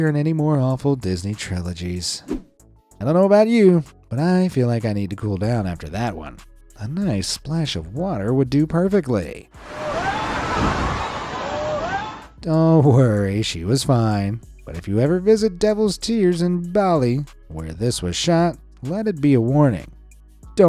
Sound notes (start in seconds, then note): 9.6 wave crashes; 9.8 person shouting